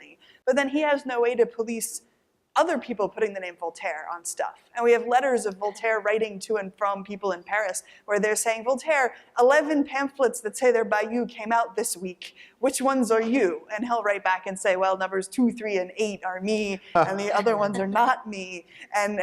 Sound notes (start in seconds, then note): 16.5 laughter